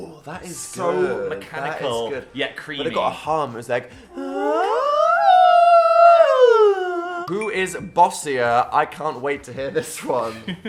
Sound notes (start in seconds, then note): 4.0 both humming